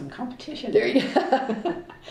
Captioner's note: laughter